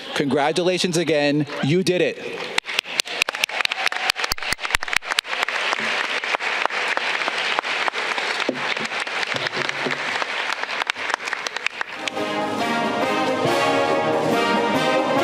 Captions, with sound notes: Congratulations again, you did it. (audience clapping) (upbeat music)